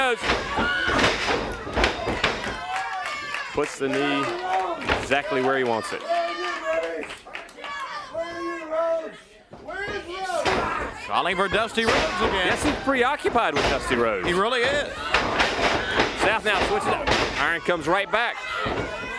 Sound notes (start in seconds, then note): 5.6 crowd cheering